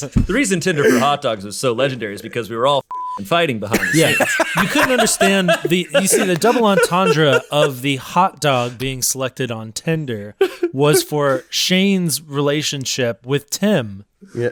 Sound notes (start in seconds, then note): 2.9 beep